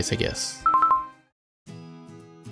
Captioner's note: pause menu sound